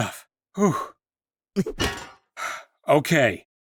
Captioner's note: thud; sigh